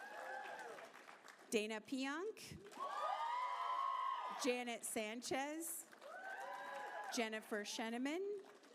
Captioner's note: applause